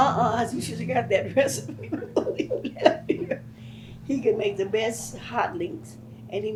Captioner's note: laughs